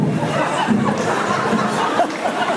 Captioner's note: laughs